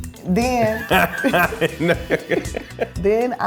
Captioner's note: laughs